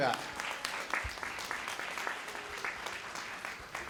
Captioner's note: applause